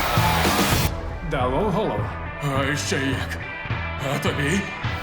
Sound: rock music playing; slightly muffled

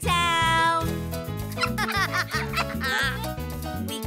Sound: laughing

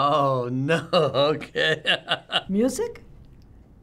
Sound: laughing

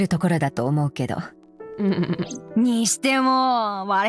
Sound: chuckles

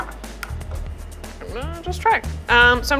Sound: egg cracking

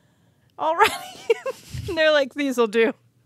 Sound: chuckles

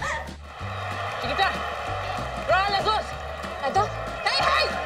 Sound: Lupe speaks in Spanish; Lupe and Esti speak in Spanish

